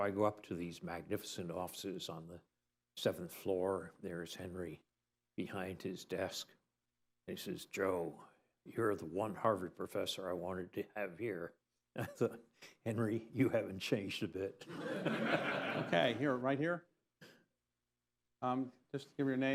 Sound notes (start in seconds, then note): 14.6 laughter